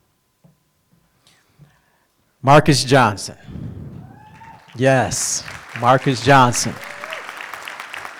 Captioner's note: applause